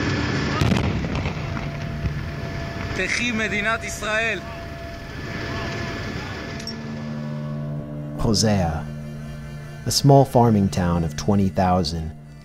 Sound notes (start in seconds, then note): 0.0 explosion